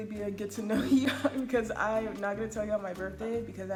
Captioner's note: laughs